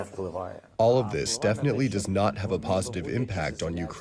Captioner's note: through translator